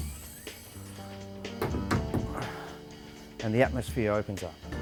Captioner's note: window slides into place